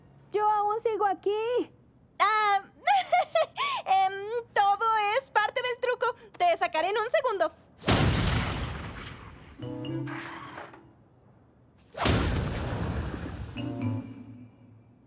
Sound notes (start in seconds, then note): 2.7 giggle; 7.8 explosion; 12.0 explosion